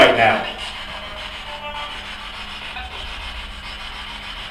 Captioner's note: static buzzing